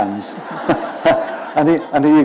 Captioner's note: laughter